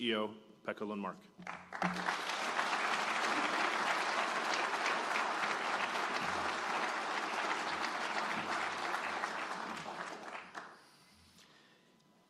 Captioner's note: applause